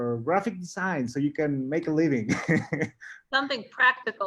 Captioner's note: laughs